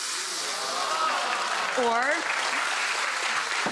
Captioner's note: audience applause